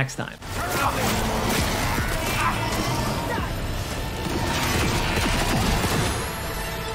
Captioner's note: shooting in game